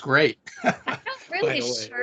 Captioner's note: laughing